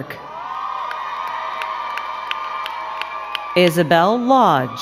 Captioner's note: crowd cheering and clapping